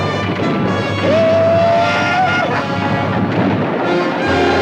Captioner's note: Apache howls